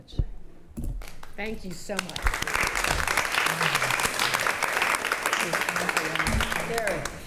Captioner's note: attendees applauding